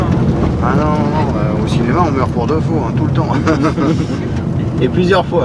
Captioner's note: laugh